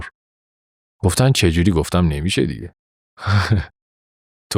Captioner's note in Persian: خنده